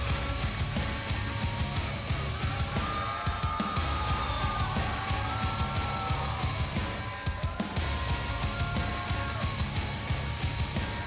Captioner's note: crowd cheering